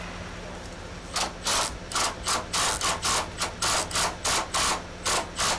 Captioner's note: machine drilling